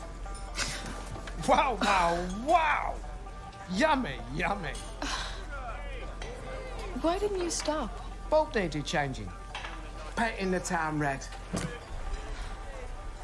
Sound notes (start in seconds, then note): 0.5 gasps; 5.0 sighs